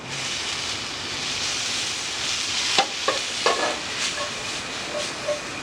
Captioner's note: pan sizzling